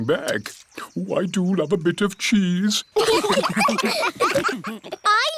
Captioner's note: laughter